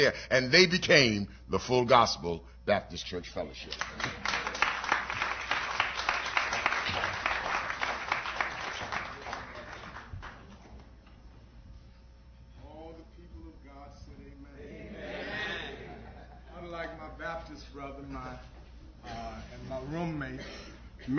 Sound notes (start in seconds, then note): 3.6 applause